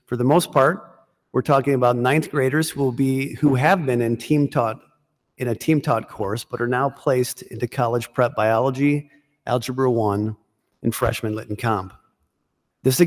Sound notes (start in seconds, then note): none